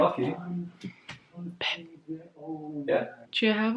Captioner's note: whispers